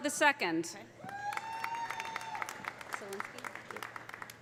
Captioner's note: audience cheering; audience applauding